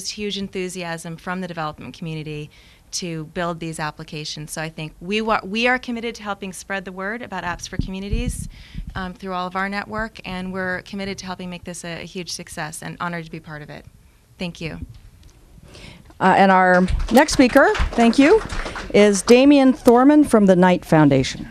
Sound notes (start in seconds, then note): 16.6 applause